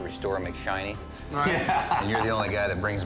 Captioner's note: laughs